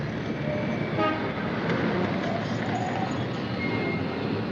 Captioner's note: car horn honking